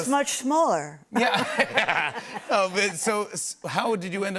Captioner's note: laughter